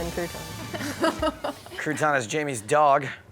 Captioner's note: laughter